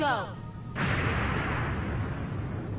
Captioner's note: explosion